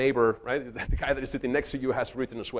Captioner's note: chuckles